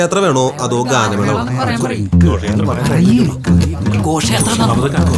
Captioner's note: indistinct chatters